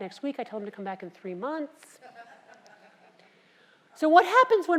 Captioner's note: laugh